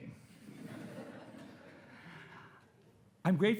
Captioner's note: attendees laughing